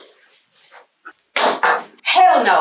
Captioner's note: slamming on desk